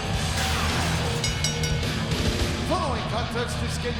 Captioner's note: bell rings